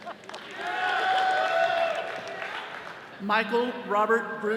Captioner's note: all cheering